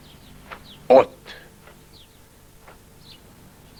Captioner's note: speaks Spanish